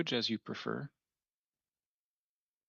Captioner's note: speaking French